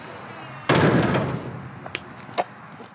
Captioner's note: door Slams